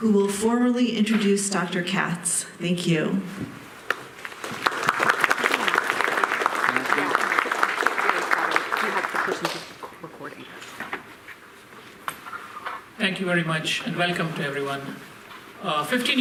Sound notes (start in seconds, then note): 4.1 applause; 6.6 people talking